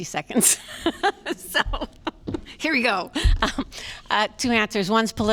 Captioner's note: laughter